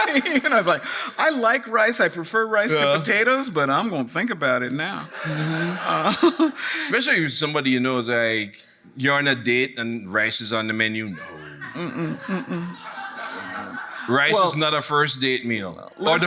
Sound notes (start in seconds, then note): 5.2 audience laughing; 11.2 audience laughing